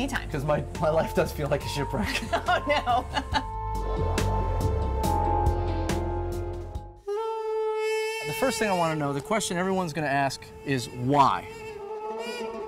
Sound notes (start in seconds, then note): 2.0 laughter